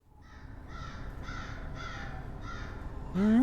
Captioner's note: birds cawing